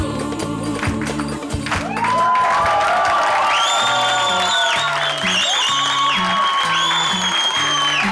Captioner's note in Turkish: Alkış ve tezahürat sesleri